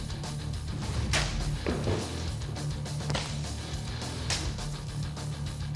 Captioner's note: chopping sound